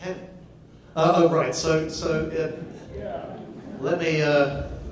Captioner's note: audience laughs